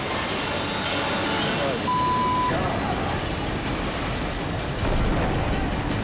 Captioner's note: beep